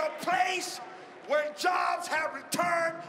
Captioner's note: cheering and applause